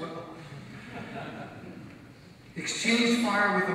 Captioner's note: audience laugh